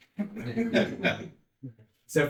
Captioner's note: audience laughs